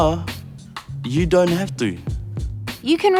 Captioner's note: whispers